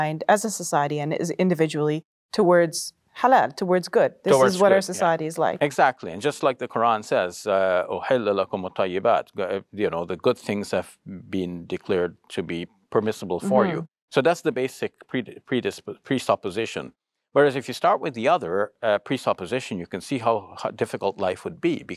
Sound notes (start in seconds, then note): 7.6 speaks Arabic